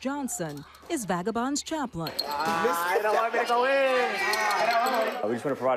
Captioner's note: exclaims